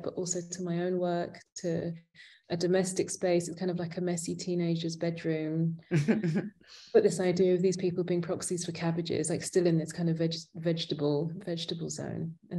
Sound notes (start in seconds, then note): 5.9 chuckling